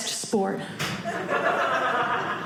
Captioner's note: audience laughing